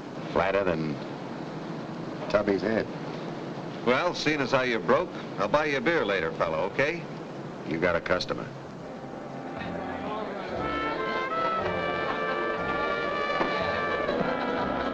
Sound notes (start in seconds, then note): 8.9 crowd chattering; 11.2 bright music playing